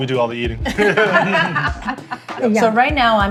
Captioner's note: laughter